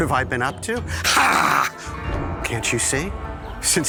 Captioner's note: grunting